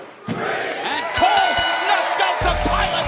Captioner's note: fans chanting; bell ringing